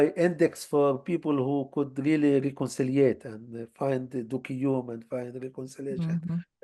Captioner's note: hebrew